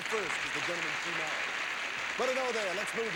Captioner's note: audience applauding